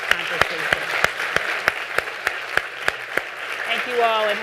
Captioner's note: all clapping